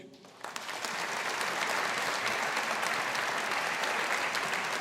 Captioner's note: audience applauding